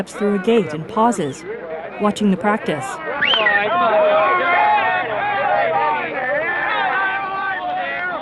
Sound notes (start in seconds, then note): 3.8 lively banter